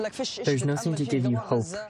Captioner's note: through translator